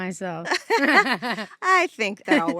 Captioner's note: laugh